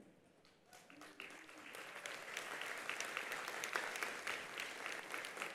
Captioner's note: attendees applauding